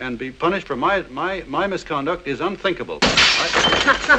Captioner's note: stammering; window breaks